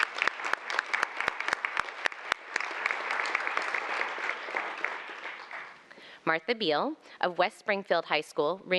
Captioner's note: applause